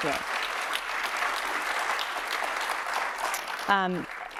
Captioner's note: audience applauds